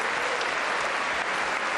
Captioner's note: applause